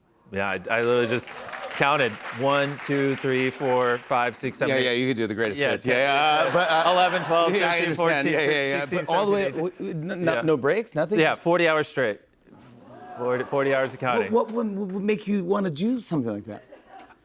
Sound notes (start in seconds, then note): 6.2 laughter; 12.8 audience exclaims